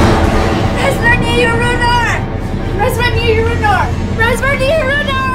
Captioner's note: speaking in foreign language